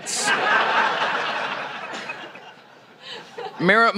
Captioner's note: laughter